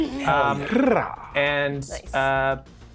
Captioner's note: Lou rolls tongue